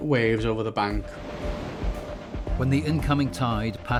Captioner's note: waves crashing; water whooshing